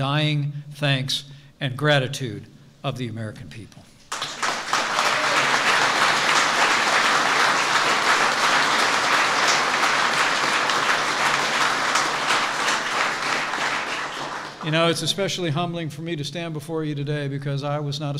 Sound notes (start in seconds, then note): 5.4 applause